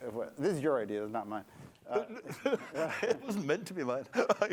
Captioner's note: laughter